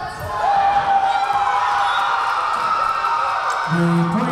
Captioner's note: crowd cheering